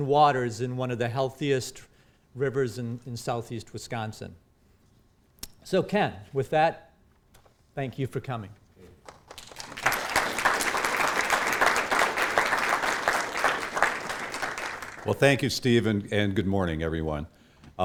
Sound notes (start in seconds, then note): 9.0 applause